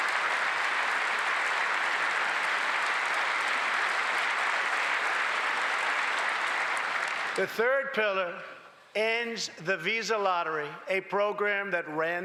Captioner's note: applause